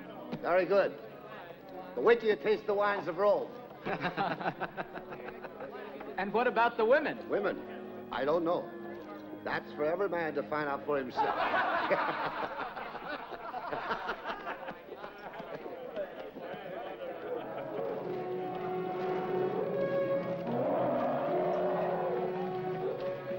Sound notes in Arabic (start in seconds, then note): 3.8 الرجال يضحكون; 11.1 ضحكة قلبية; 17.9 موسيقى درامية مشؤومة; 19.3 الفيلة تزأر; 23.2 موسيقى درامية مشؤومة